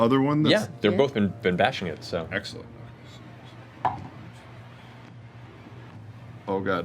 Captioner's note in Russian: none